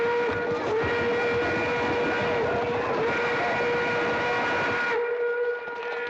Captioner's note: horses bustling; train whistle blaring